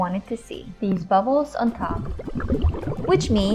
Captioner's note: water bubbling